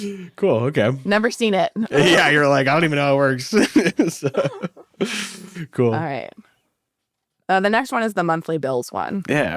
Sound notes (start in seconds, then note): 3.5 laughs